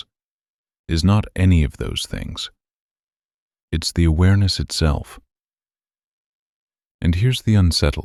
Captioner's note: pause